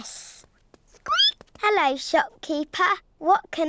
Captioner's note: squeaks